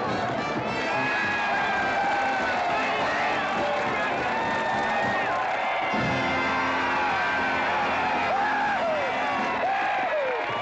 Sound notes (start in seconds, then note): 0.0 crowd applauding & cheering